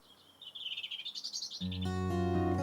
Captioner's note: 鸟鸣; 轻柔的音乐